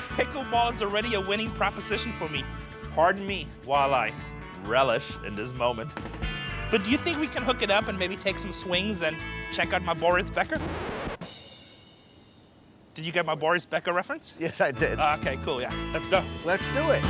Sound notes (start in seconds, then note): 10.5 record scratching; 11.1 crickets chirping